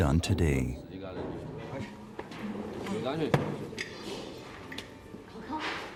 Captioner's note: speaking in foreign language